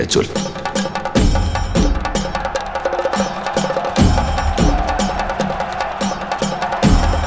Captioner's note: audience applauding